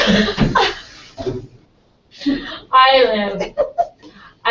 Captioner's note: laugh